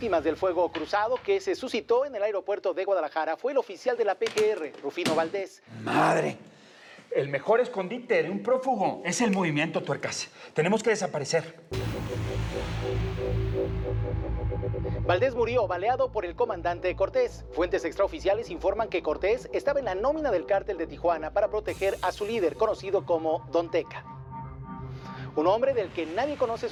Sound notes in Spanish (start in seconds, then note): 15.0 voz en la tv